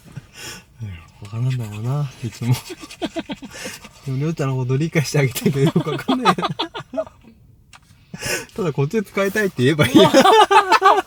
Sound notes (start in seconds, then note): 5.2 laughs